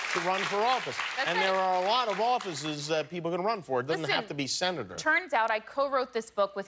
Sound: cheers and applause

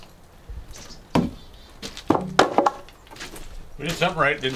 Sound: wood thuds loudly

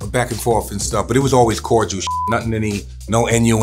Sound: beeps

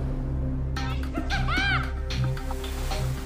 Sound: skiier shouting happily

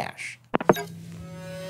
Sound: phone clicks

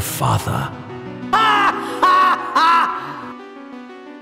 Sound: THE* infamous Tidus laugh

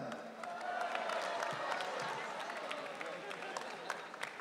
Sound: audience cheering

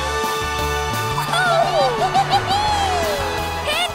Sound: cheering

